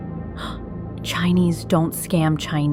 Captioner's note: gasps